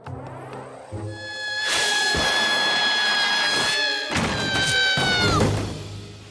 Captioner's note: scream